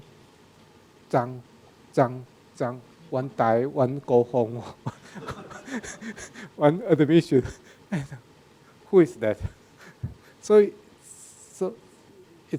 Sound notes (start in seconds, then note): 3.7 speaking in a foreign language; 4.6 laughs